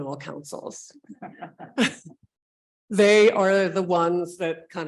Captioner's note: laughing